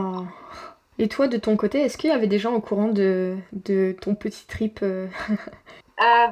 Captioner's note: laughs